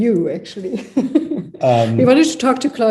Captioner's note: chuckles